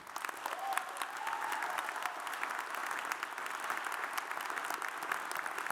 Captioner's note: audience cheers and applauds